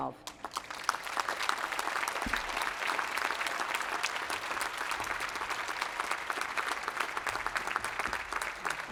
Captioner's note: applause